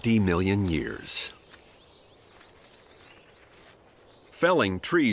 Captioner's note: gnawing